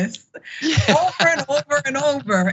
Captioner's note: laugh